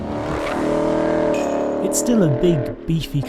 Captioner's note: engine revving